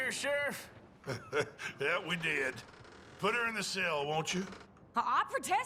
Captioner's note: laughs